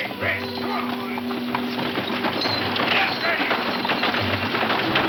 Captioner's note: wagons clattering